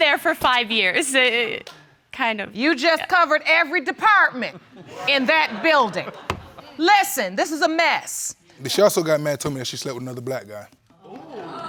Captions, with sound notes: I worked there for five years, it... Kind of... You just covered every department in that building. (POUNDS) Listen, this is a mess. She also got mad and told me she slept with another black guy.